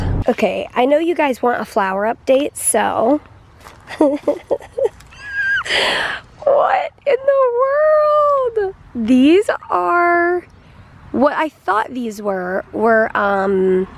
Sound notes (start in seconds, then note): 3.8 chuckling